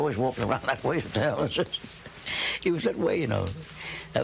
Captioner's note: chuckling